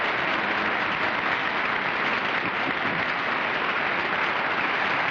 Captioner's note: applause